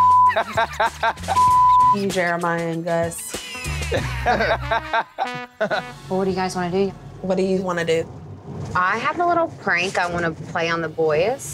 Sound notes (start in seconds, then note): 0.2 laughing; 3.5 boys laughing